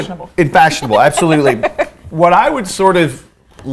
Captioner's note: laughs